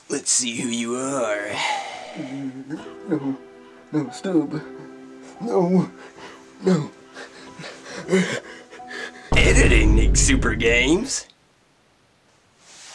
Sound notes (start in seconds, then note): 1.5 exhales; 8.4 heavy breathing; 9.3 boom plays